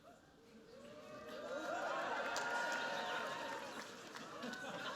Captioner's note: cheering